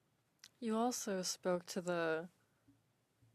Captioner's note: speaking French